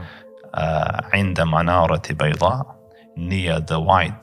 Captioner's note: Arabic